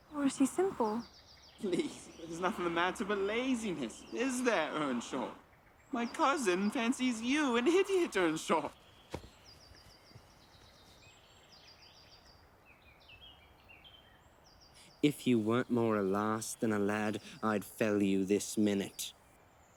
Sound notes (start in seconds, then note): 9.5 birds singing